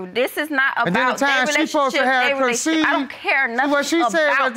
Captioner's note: protesting